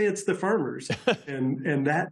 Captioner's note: laughter